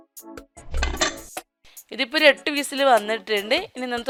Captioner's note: closing lid